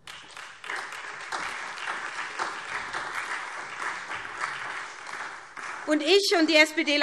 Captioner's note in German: Beifall SPD